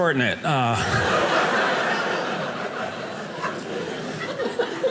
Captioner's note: audience laughing